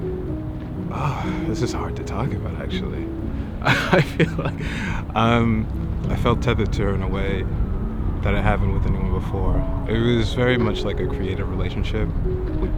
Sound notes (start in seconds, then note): 3.6 chuckles